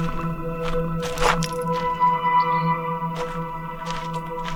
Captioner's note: footsteps crunching